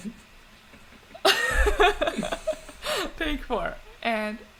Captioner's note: laughs